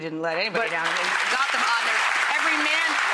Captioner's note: audience applauding